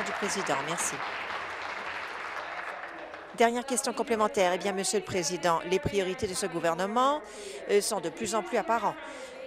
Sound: applause

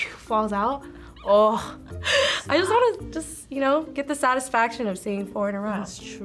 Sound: chuckles

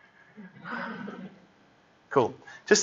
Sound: laughter

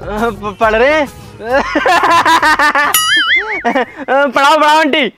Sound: laughing

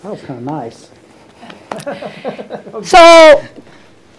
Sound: laughs

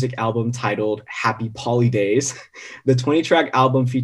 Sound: chuckles

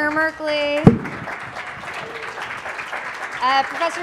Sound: applause

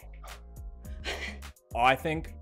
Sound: chuckles

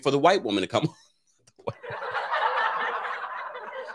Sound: laughs

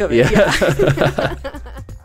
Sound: laughter

